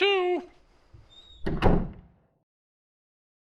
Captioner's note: door closes